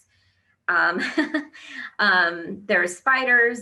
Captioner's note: laughs